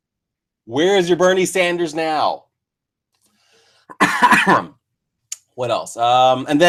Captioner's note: cough